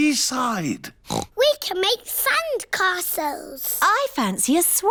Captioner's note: oinks